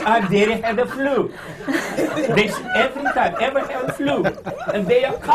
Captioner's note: laughter